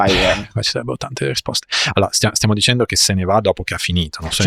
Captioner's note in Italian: schiarire la voce